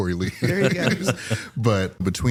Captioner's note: laughter